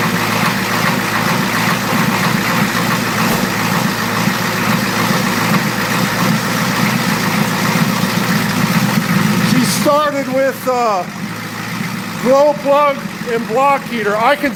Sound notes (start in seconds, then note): 1.0 engine starts and idles erratically